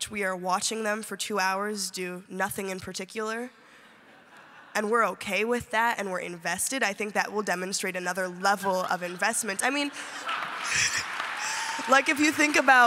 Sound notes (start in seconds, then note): 9.8 applause